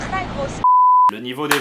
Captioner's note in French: bip